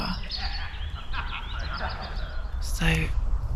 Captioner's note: people laughing loudly